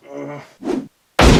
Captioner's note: gun firing sound; woosh